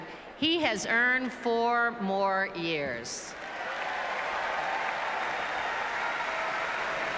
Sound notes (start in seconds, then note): 4.8 applauses and cheers